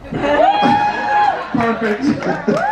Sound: guests whoop

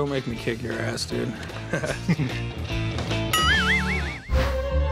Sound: slide whistles plays; Corey and Rick chuckle; playful music

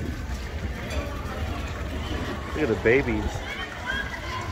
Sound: crowd chattering

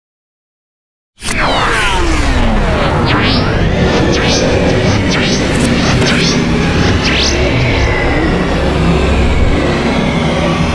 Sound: sound of science fiction

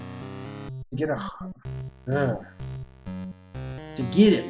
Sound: sighs

